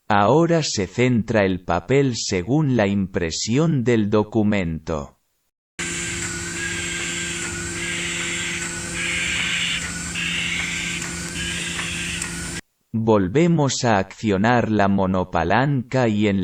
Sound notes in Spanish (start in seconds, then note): 5.8 sonido de la máquina en marcha